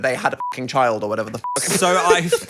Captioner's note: beep